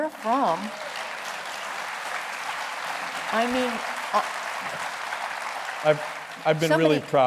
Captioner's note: applause